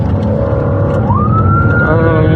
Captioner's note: siren b blalaringn